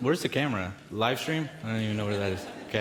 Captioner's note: audience laughs